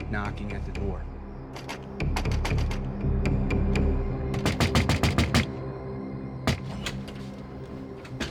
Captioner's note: knocking